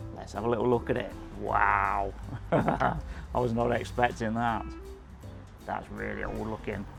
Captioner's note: laughs